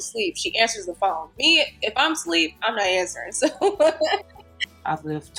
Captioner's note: laughs